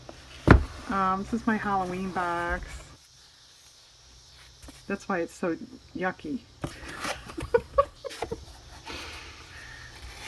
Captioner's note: laughs